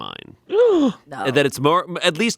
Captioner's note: gasping